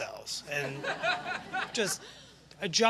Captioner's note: laughter